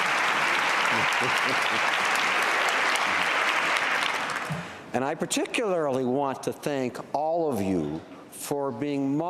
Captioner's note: cheering and Applause